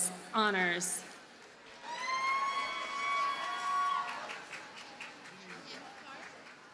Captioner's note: audience cheers and applauds